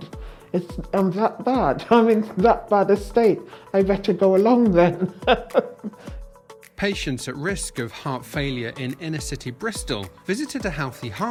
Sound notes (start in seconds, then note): 4.8 laughs